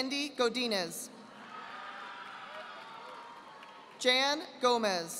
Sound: audience applauding

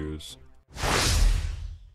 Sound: swoosh

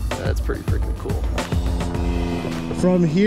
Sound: plane engine roaring

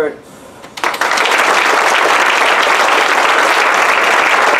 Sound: applause

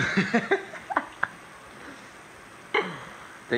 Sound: laughing

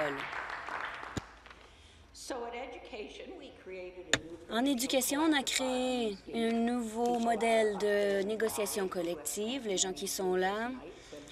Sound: applause

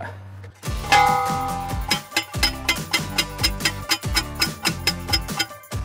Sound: post pounder clanging

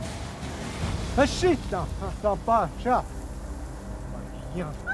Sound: speaking crow

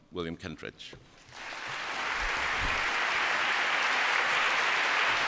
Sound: applause

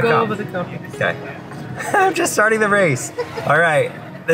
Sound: chuckles

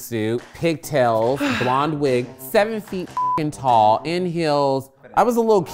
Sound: beep

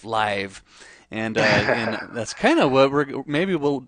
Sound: laughs

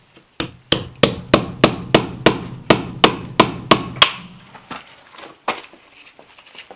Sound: hammer thumping and clanging on metal

